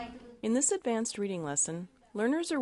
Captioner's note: voiceover